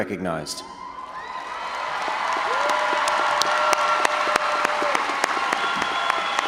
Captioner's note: audience cheering and applauding